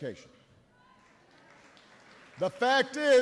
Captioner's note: applause